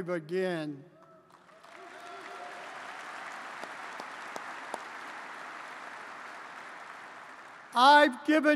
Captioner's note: applause